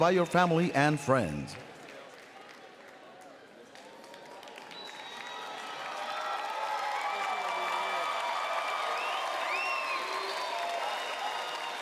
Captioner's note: applause and Cheering